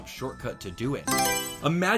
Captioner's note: Mario Selection Sound